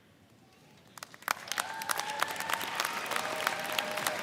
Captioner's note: all clap